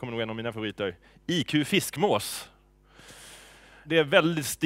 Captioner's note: colloquial Swedish